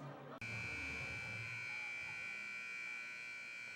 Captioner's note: buzzer buzzing